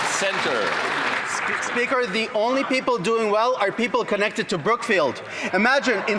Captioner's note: some Applause